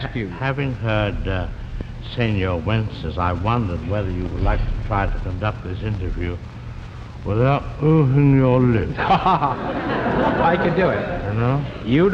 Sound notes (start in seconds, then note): 8.8 laughs